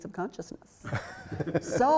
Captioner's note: laughter